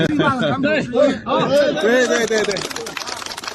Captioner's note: applause